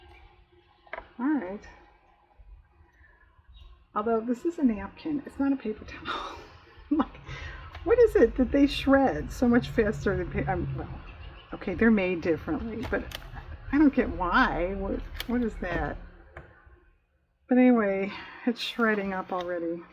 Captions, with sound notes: all right although this is a napkin, it's not a paper towel (laughs) what is it that they shred so much faster than-- well okay they're made differently, but i don't get why, what is that? but anyway it's shredding up already